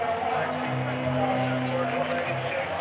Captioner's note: people chattering